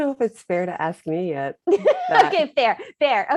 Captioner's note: laughter